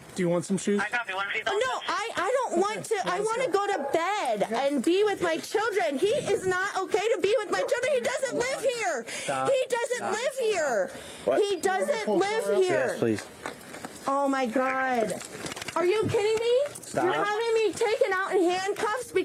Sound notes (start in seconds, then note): 14.0 radio chatter